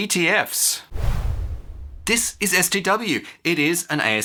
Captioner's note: whoosh